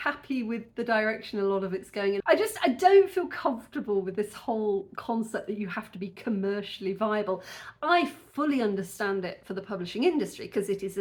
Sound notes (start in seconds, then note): none